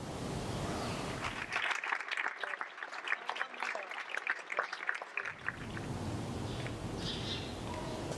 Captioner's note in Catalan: Aplaudiment